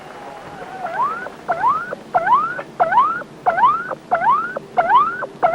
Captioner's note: electronic beeping